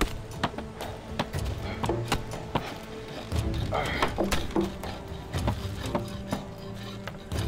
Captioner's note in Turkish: Kütük yontma sesleri